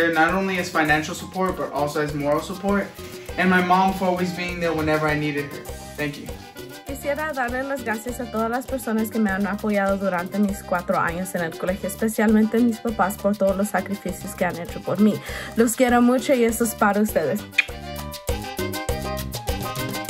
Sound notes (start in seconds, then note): 6.9 speaks in foreign language